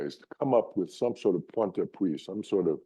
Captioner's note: speaks in foreign language